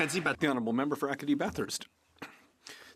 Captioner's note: some Applause